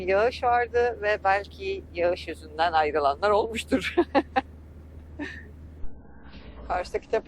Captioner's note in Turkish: kahkaha